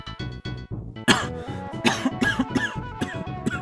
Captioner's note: cough